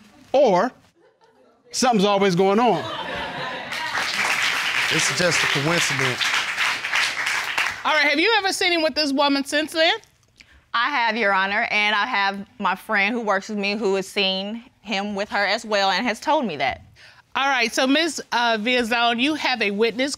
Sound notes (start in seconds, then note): 3.1 audience laughing, applauding